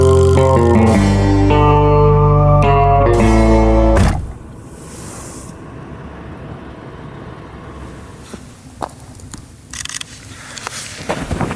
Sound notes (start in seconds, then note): 3.1 car door thuds; 6.3 car engine humming; 9.7 camera clicks